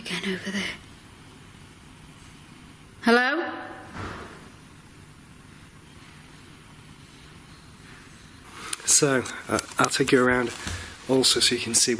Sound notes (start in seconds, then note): 3.9 loud banging